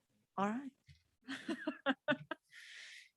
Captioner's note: laughs